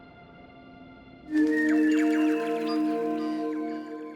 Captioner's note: birds call, chirp